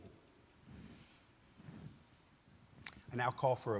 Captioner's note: clothes rustling